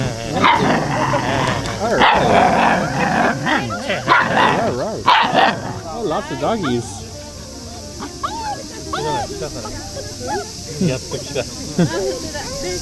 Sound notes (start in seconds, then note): 0.2 dog growling, encouraging it by growling too; 8.0 dog whining